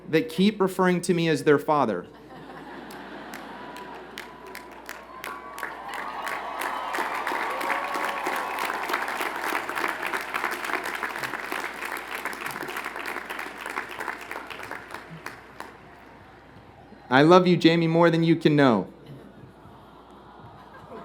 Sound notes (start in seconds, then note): 5.2 applause; 6.4 cheering